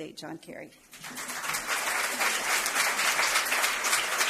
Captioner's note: applause